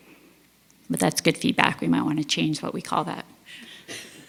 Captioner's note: laugh